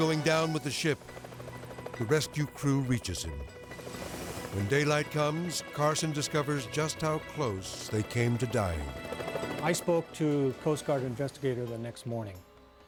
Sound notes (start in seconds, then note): 3.5 helicopter rotor whirring; 8.6 helicopter rotor whirring